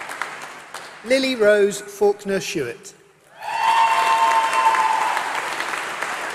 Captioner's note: applause